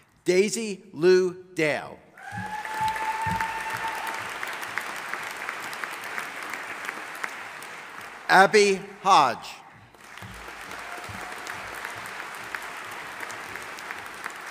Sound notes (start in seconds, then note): 2.2 audience applauding